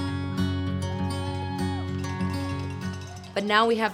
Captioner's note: people cheering